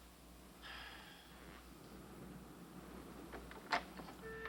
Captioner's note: John sighs